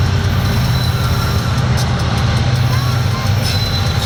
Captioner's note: train engine roars